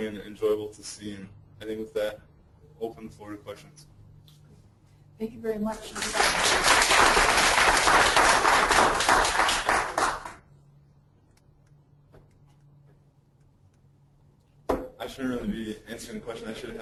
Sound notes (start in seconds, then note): 5.9 clapping